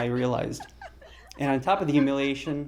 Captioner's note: laughter